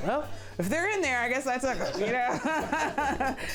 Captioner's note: women laughing